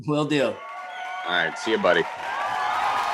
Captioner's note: audience cheering